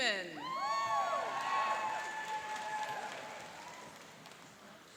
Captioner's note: cheering and applauding